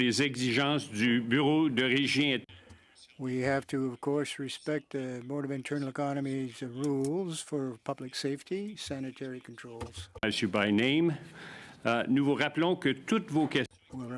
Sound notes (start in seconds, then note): 3.2 speaking French